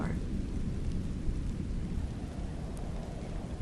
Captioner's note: wind whooshing